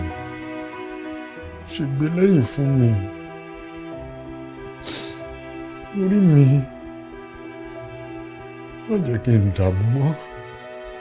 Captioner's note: sobbing